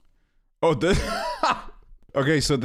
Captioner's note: laughs